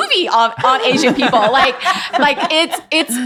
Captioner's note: everyone laughing